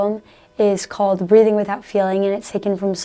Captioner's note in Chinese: 无感地呼吸